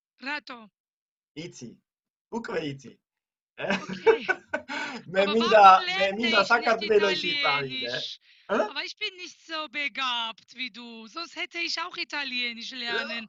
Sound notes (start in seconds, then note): 4.5 in German